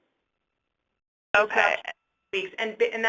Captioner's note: voiceover